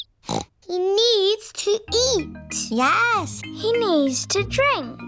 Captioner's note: snorts